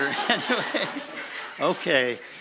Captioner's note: laughing